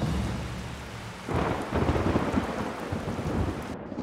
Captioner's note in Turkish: Gök gürültüsü